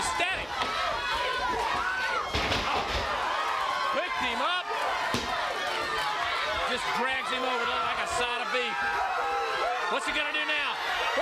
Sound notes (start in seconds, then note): 3.0 crowd chatter